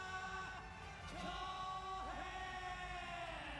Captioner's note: shouting